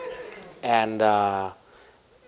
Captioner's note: laughter